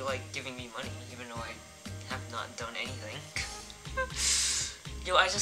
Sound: laughs

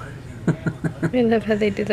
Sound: laughter

